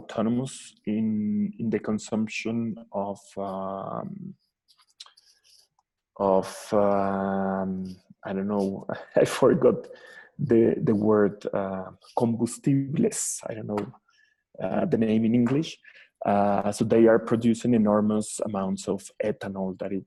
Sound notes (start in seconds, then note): 9.0 giggles